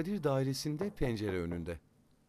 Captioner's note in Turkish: Kapı vurulma sesi